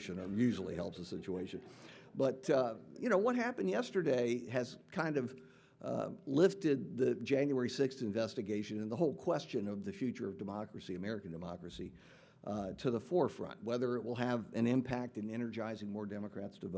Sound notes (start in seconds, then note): none